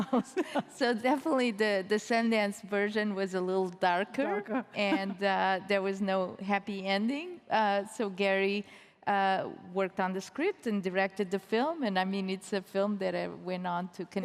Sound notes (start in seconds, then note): 4.8 chuckles